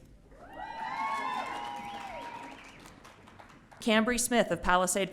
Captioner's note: audience cheering